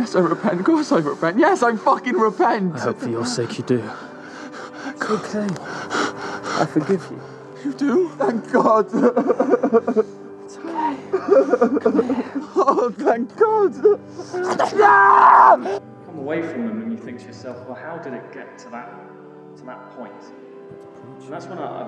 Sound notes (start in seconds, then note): 8.6 crying; 14.4 screaming